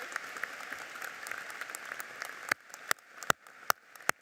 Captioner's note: applauding